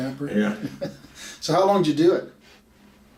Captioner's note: laughs